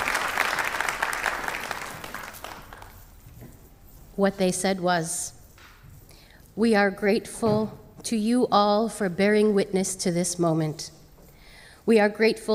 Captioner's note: applause